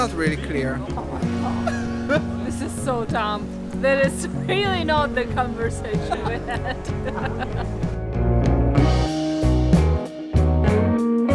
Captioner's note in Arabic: يضحك